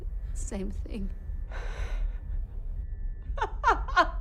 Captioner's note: laughs